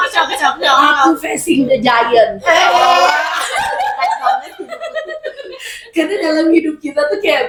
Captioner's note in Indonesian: tertawa